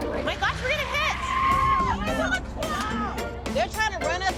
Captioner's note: tires screech; all clamoring